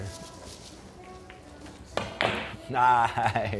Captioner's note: billiards being played